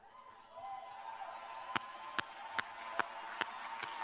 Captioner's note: cheers; applause